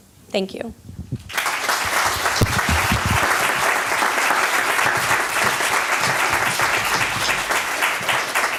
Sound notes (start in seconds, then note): 1.2 applause